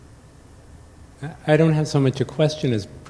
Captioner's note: voiceover